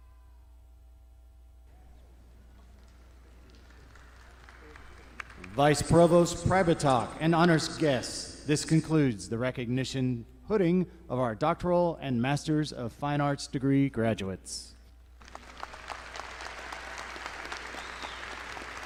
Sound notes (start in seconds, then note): 15.2 all clapping